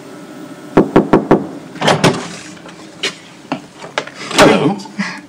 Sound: knock on door

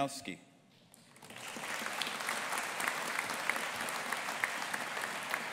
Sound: audience applauding

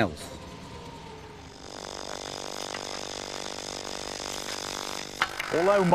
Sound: hydraulic pump noise

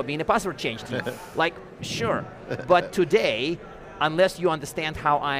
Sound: chuckling

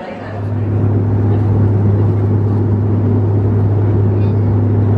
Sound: airplane humming

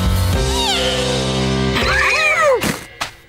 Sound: gasping

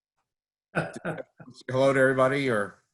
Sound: laughs

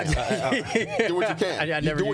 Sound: laughing

